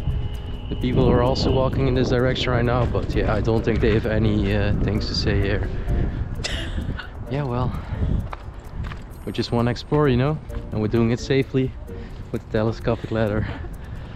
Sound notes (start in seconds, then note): 6.4 laughing